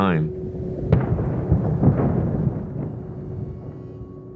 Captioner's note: explosive bang